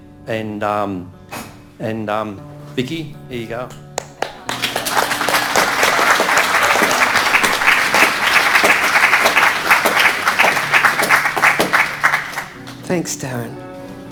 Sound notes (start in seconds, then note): 3.9 audience applauding